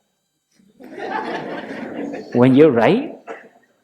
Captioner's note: laughter